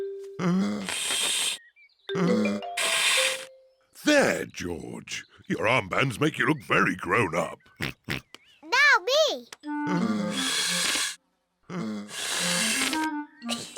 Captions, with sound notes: (BLOWING DEEPLY) There, George. Your armbands make you look very grown up. (OINKS) Now me! (BLOWING DEEPLY)